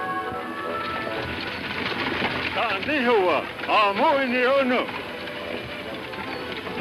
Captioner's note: speaking in foreign language; Indians shouting